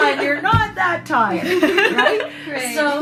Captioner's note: laughter